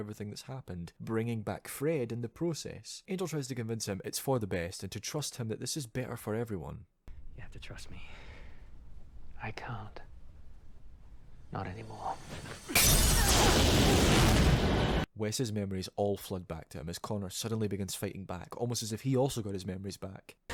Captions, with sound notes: everything that’s happened, bringing back Fred in the process. Angel tries to convince him it’s for the best and to trust him that this is better for everyone. [smash] Wes’s memories all flood back to him, as Connor suddenly begins fighting back, almost as if he also got his memories back